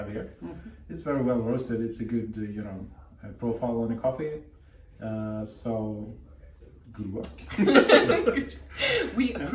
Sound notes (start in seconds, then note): 7.5 laughter